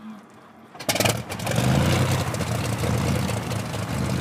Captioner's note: engine revs